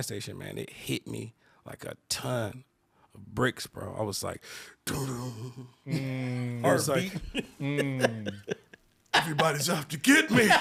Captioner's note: imitates guitar